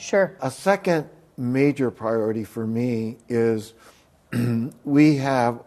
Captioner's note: coughs